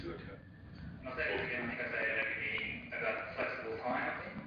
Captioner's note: audio distorts